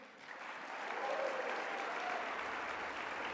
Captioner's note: applause